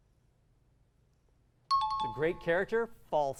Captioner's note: timer